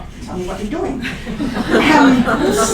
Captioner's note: laughter